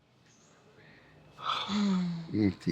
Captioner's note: sighs